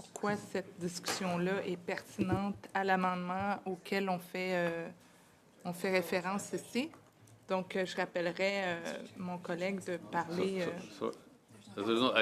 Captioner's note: speaking French